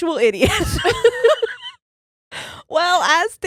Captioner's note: laughing